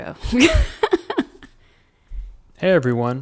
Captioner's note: laughs